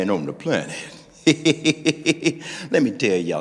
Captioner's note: laughing